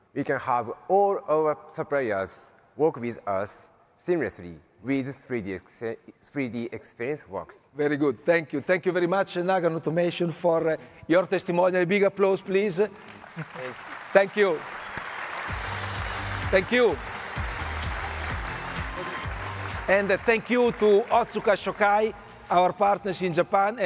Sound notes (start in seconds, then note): 13.0 audience applauding; 17.8 audience applauding; 17.8 upbeat music